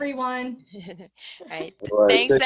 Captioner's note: laughter